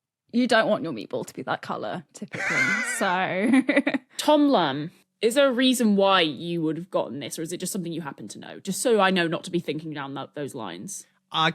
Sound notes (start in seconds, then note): 2.3 chuckles; 2.3 wheezes